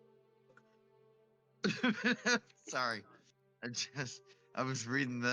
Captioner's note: laughs